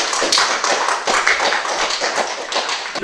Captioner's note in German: Applaus